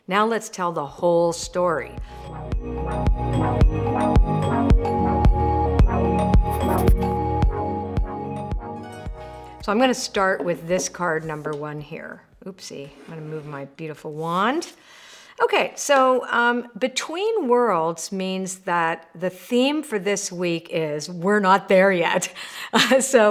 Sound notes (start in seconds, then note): 1.9 upbeat music; 6.4 text scribbles